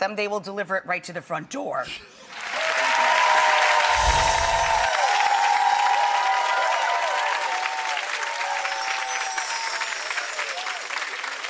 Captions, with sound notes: they will deliver it right to the front door. (audience clapping and cheering)